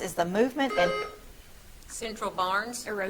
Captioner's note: buzzer trills